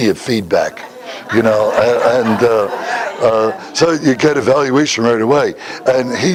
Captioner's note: Смех